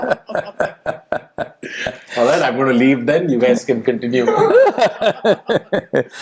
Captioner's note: Sadhguru laughs; Sadhguru laughs